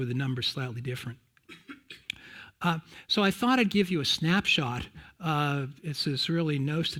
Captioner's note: cough